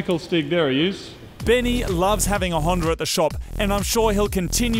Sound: voice over

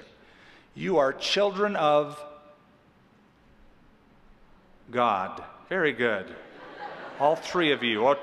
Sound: laughter

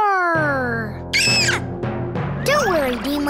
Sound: screaming

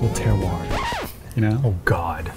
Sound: record scratch

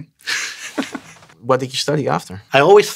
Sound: laughs

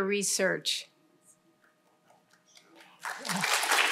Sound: applause

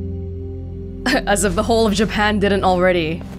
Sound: chuckles

